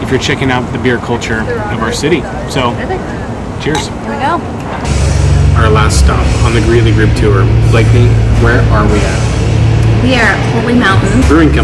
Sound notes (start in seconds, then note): 3.6 glasses clinking